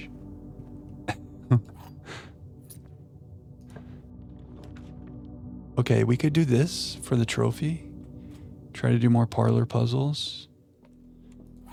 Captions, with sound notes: (chuckles) Okay, we could do this for the trophy. Try to do more parlor puzzles.